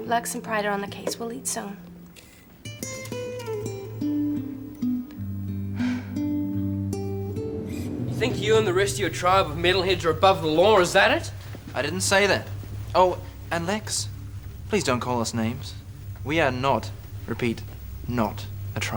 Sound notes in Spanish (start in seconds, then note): 2.7 solo de guitarra suave; 5.6 suspira; 6.7 viento que sopla